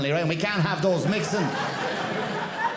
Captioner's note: audience laughing